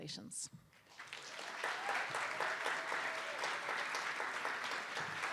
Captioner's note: attendees applauding